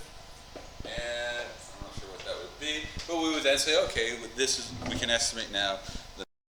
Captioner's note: mic cuts out